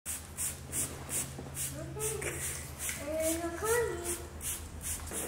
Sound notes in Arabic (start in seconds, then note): 1.5 رش الماء